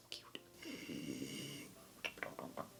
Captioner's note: sound of a troll snoring